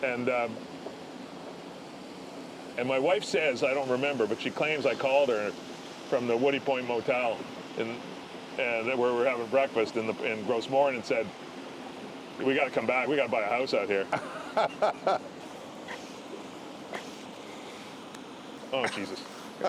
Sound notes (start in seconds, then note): 16.3 laughter; 18.6 laughter